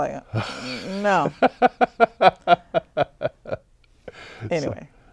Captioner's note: laughing